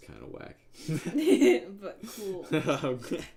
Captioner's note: laughing